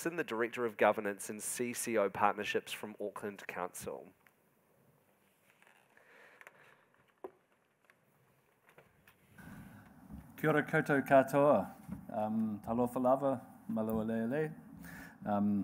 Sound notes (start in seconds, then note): 10.5 speaking in Maori